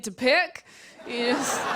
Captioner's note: laughter